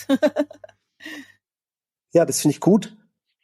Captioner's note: laugh